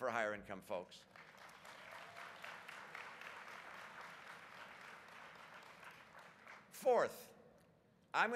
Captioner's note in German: Applaus